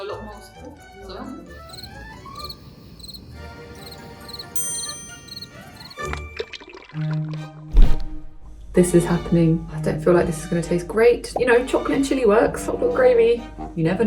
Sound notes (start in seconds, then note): 1.5 crickets chirping; 4.5 triangle dings; 6.2 bouncy orchestral music; 6.3 viscous liquid pouring; 11.3 bubble pops